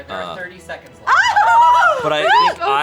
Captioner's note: squealing